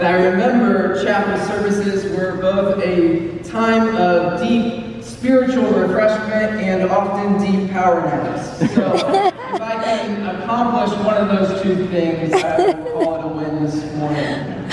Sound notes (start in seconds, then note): 8.6 laughter